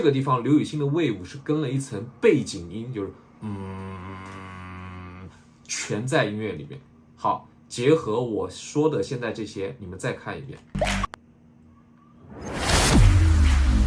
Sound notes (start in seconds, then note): 3.4 mimicking sound